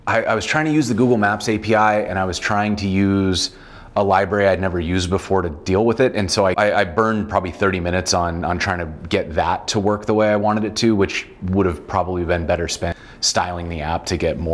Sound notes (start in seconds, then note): none